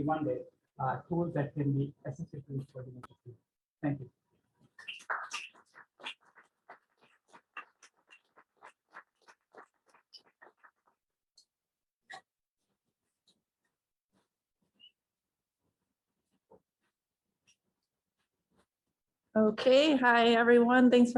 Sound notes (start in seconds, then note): 4.8 claps